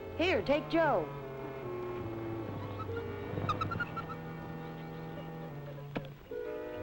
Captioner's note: mysterious music; Joe chattering; birds chirping; mysterious music